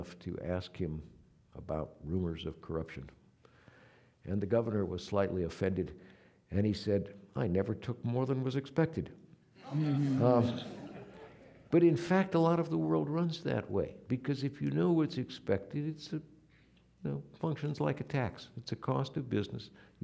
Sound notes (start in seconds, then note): 9.6 audience laughing